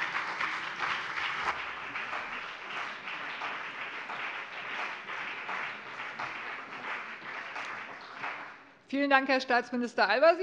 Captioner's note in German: Beifall BÜNDNIS 90/DIE GRÜNEN und vereinzelt CDU